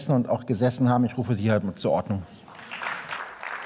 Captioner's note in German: Beifall